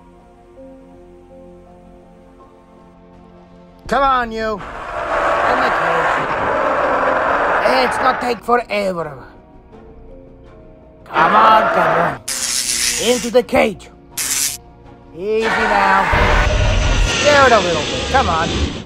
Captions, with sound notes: Come on you, in the cage. [Postosuchus Sounds] Let's not take forever. Come on fella, [Stun Rod Sound] into the cage. [Stun Rod Sound] Easy now. [Postosuchus Sounds] Scare it a little bit. Come on